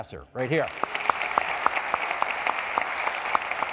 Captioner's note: applauding